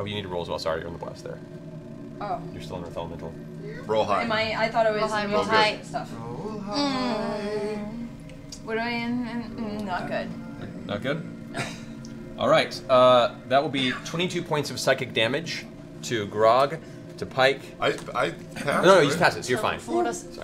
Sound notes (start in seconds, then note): 8.4 groans